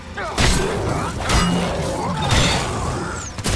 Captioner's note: metal clanking